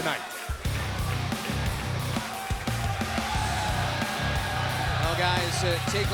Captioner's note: crowd cheering